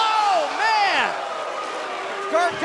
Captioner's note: cheers & applause